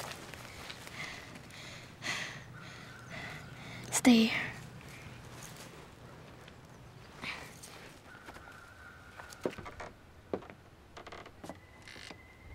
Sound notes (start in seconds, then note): 1.0 Samuel panting; 9.1 steps creaking